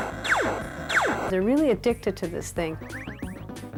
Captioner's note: laser fire